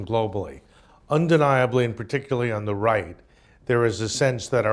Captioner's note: none